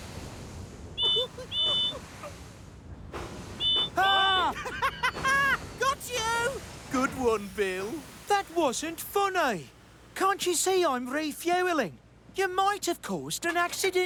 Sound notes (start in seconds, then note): 0.5 whistles toot; 3.6 laughs